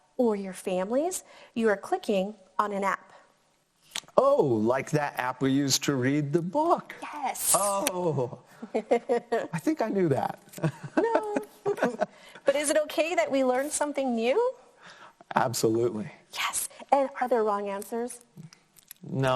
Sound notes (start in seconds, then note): 10.6 laughs